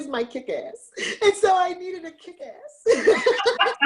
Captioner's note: laughs